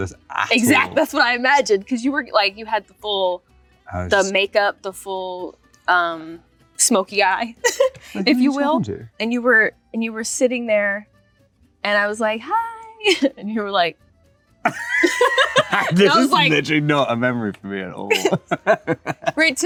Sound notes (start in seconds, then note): 7.6 laughs; 14.6 both laugh; 18.1 laughs